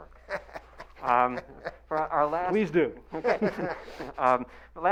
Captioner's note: laughing